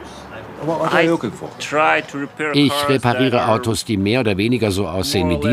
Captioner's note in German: englisch